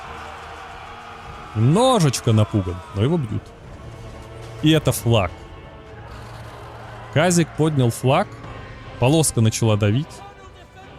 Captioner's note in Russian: крик